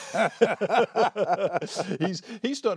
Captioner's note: laughter